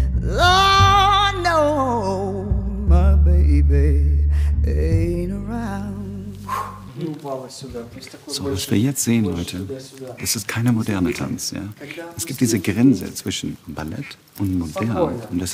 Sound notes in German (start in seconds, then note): 6.4 Ausatmen